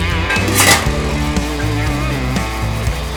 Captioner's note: rub rub